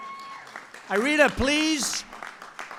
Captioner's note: applause